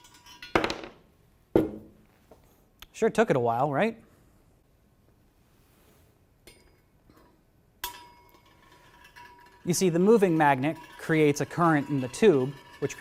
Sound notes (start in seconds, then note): 0.6 magnet thudding; 10.5 tube ringing; 12.2 tube ringing